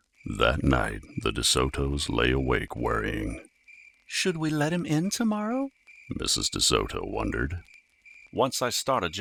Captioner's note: crickets